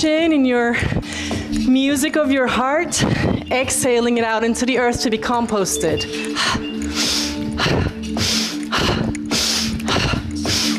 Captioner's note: snorts